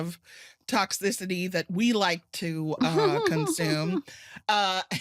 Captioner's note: laughter